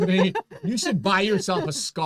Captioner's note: both chuckling